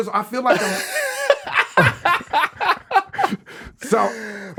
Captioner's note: everyone laughing